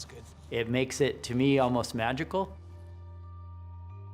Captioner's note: pat